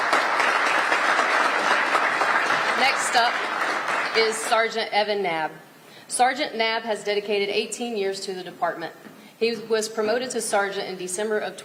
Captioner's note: applause